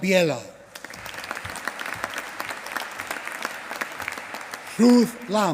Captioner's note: applause